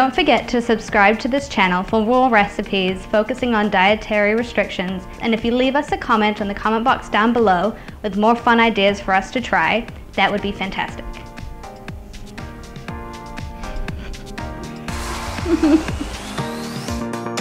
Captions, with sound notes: >> Don't forget to subscribe to this channel for more recipes focusing on dietary restrictions. And if you leave us a comment in the comment box down below with more fun ideas for us to try, that would be fantastic. [Instrumental Music] [Giggling] [Instrumental Music]